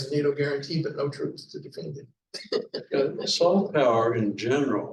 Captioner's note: laughing